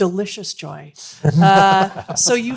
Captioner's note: panelists laughing